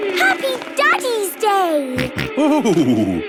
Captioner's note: snorting